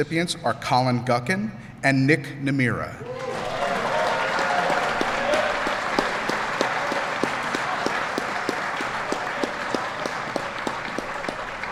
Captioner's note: applause